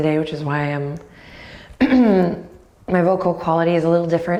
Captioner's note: clears throat